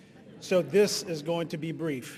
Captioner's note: audience laughing